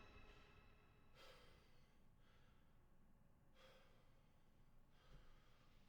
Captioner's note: Triston breathes heavily